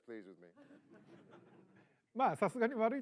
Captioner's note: laughter